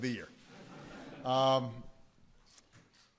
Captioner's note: laughter